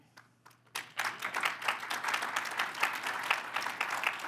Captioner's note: audience applauding